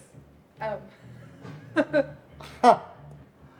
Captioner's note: giggles nervously; chuckles